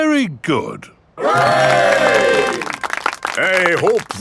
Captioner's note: clapping